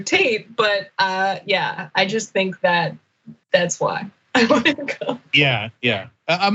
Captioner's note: laugh